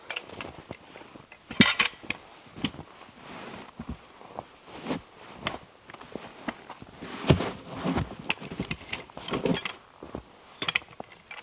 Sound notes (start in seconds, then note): 1.5 log hook clanking